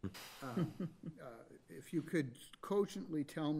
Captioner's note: chuckles